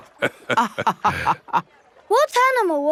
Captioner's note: both laughing